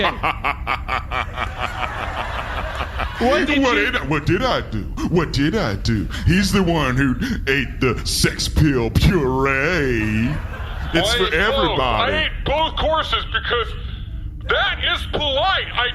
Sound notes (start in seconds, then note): 4.4 laughing